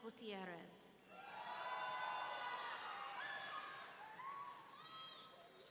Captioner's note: audience cheering